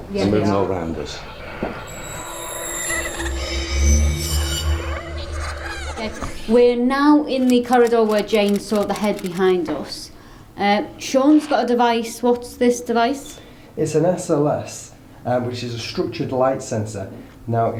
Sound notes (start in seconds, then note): 2.4 creepy music; 2.4 screeching